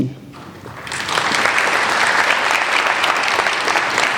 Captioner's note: applauding